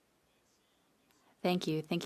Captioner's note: speaking French